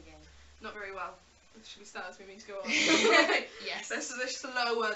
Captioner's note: laughs